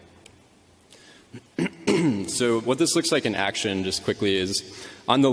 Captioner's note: clears throat